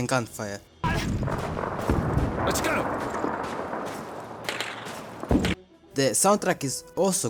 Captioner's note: ambient sounds of mortar and gunfire